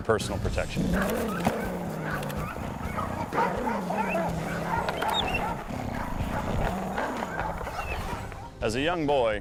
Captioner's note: dog growls